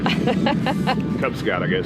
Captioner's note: woman laughing